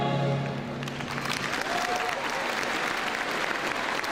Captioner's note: crowd cheers